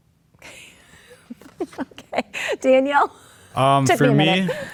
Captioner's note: laughs